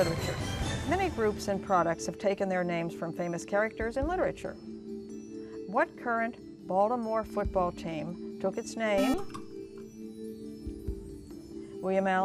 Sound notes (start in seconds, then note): 9.0 buzzer